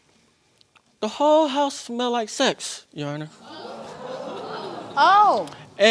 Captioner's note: audience gasps